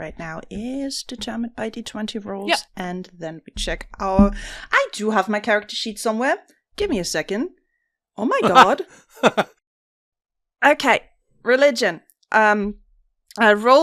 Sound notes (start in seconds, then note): 8.4 laughs